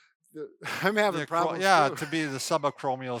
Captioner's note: laughs